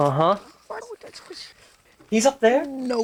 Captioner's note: Blitz mumbling